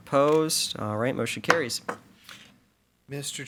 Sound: gavel pounds

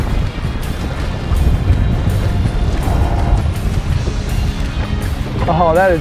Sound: wind blowing; reel creaking

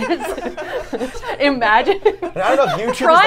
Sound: laughing

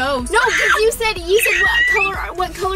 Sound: screams

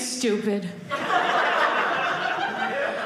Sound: audience laughing

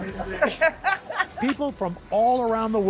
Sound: laughter

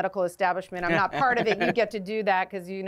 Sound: laughter

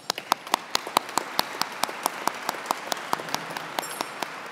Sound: audience clapping

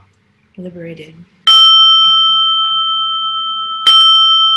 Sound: bell rings

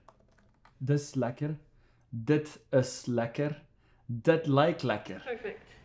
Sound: repeating in Afrikaans

